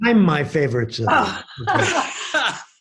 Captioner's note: people laughing